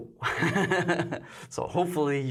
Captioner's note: laughs